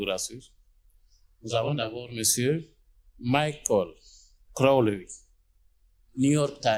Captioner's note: in French